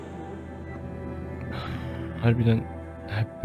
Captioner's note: exhales